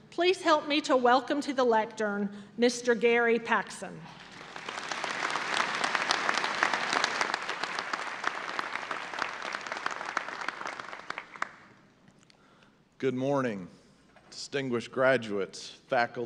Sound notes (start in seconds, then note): 4.2 audience applause